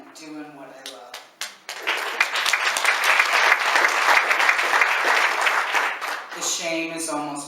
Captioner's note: applause